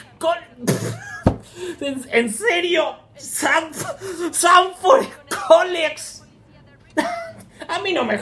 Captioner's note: cracks up; cracks up